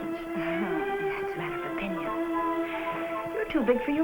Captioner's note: scoffs